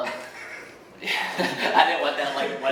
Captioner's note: laughing